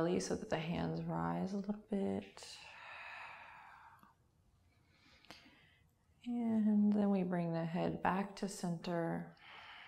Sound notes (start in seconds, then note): 2.3 exhaling